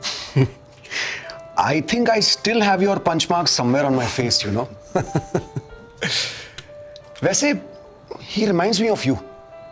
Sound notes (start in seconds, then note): 4.9 Rana laughs